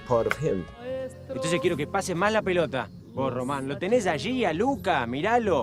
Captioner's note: speaking in a foreign language